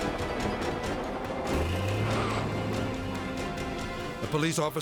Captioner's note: tank engine rumbles; intense dramatic music